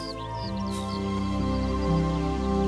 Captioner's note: none